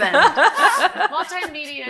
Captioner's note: audience laughing